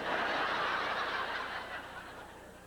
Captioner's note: howling laughter